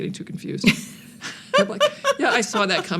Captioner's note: laughs